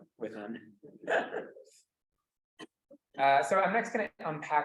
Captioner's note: student laughs